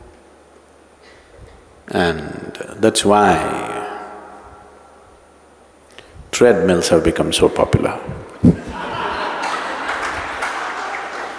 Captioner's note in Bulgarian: Всички се смеят